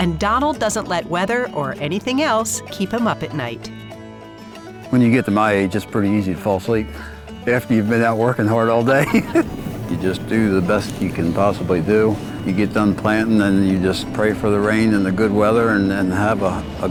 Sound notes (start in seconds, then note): 8.9 laughs